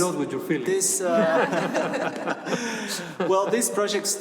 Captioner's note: laughter